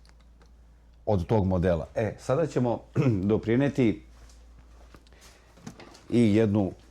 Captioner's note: coughs